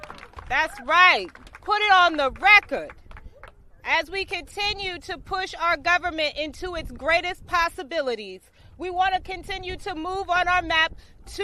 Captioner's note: applause